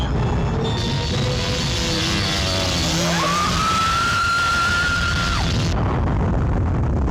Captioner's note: wasps buzzing; wasps shrieking